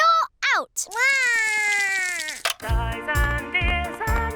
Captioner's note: cries